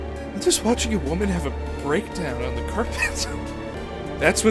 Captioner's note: wheeze